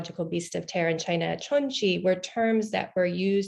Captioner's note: speaks in foreign language